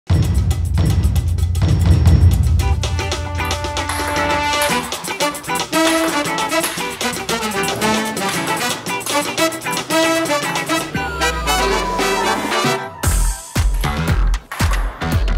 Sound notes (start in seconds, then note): 4.1 paddles clacking; 5.9 fast-paced music